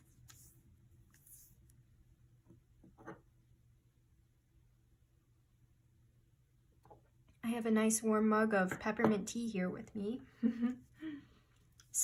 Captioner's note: small laugh